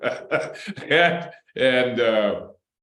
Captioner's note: laughter